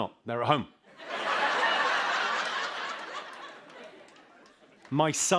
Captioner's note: laughter